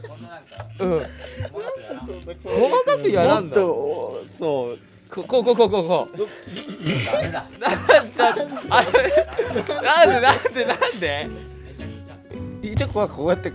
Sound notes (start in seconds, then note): 0.0 laughs; 8.0 laughs